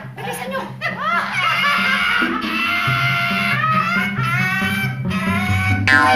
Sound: cawing

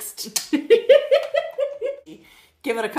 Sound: all laugh

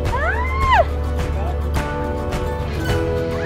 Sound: squealing; upbeat guitar music

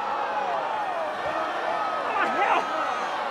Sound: audience booing

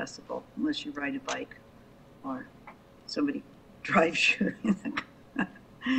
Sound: chuckles

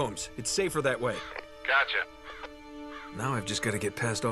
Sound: radio

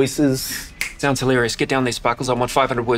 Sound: snaps fingers

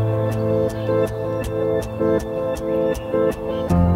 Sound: birdsong

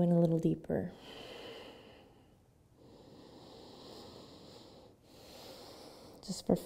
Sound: breathing

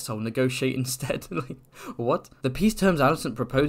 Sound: laughs

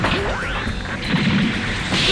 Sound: clank!; wham, crash!!

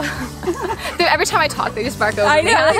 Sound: both laughing

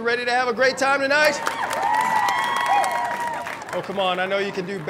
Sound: cheering

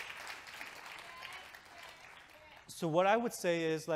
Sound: audience clapping

